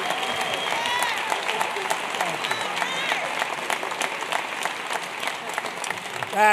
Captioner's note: applause